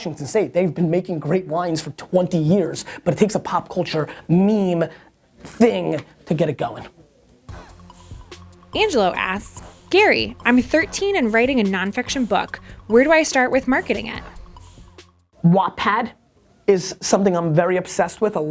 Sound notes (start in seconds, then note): 8.6 voiceover